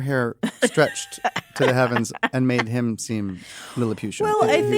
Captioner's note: laugh